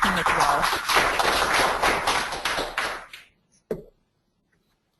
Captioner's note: audience clapping